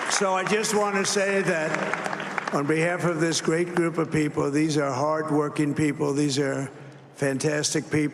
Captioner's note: cheers and applause